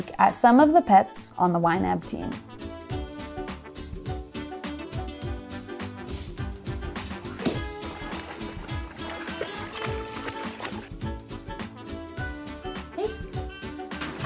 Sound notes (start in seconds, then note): 2.9 playful music; 6.3 scraping; 7.0 water splashing; 7.3 thudding